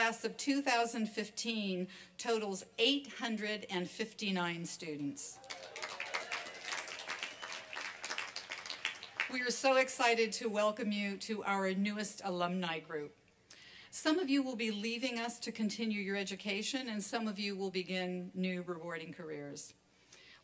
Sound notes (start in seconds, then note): 5.3 applause and cheering